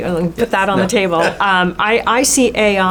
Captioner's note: chuckles